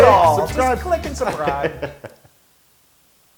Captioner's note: laugh